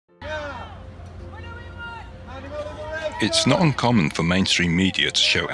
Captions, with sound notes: [Protestors chanting] [Chanting] What do we want?! Animal liberation! It's not uncommon for mainstream media to show